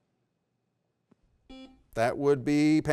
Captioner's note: beep